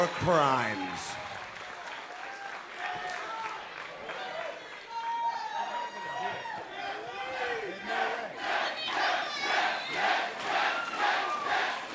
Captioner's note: crowd cheering